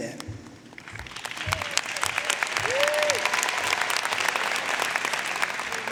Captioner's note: audience cheering and applauding